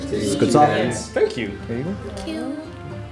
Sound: appreciative noises

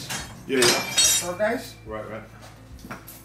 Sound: clanging metal drowns out

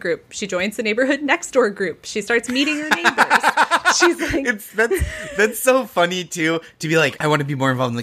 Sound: laughing

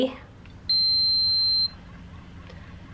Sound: pump beeping

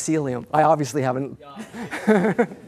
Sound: laughter

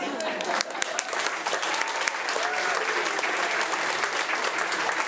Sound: audience applauding

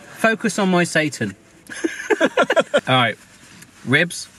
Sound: both laugh

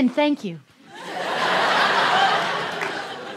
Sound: laughter

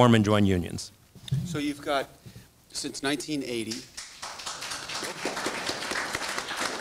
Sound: audience applauds

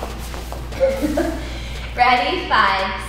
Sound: instructor chuckles

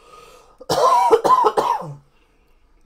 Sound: coughing

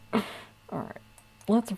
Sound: laughing

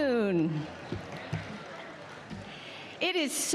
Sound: audience applauding

